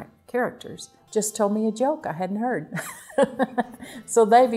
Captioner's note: laughs